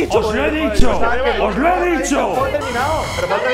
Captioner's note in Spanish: Alarma